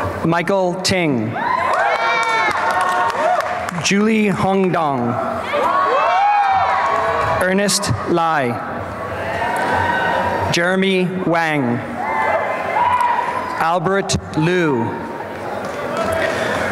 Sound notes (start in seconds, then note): 1.4 applause and cheering; 5.9 applause and cheering